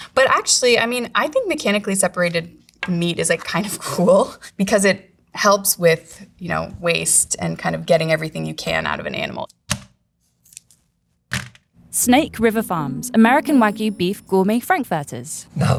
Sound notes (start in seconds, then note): 9.5 package thunks; 9.5 plastic rustling